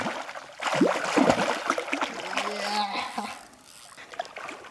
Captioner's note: sound of intense water